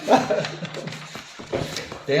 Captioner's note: laughing